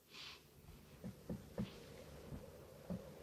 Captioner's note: knock on window